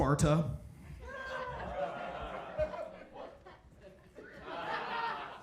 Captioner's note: audience laughing